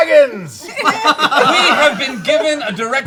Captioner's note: laughter